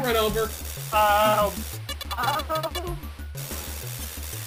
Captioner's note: random Scottish Noises